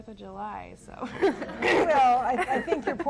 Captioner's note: laughs